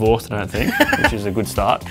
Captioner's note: laughs